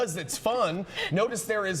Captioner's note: laughter